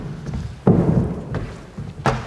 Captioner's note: knocks